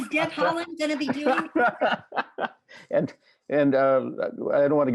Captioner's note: laughter